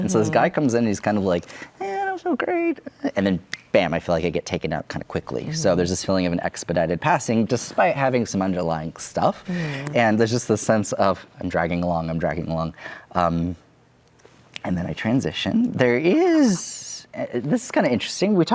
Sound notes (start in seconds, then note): 3.5 snaps fingers